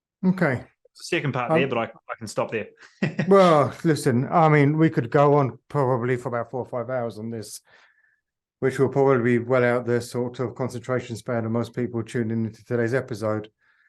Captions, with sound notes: Okay. - A second part there, but I can stop there. (laughs) - Well listen, I mean, we could go on probably for about four or five hours on this, which will probably be well out the sort of concentration span of most people tuned into today's episode.